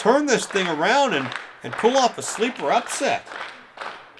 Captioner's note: fans clapping